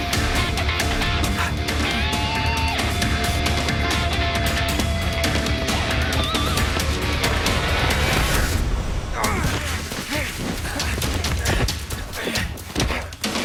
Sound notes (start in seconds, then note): 9.1 grunting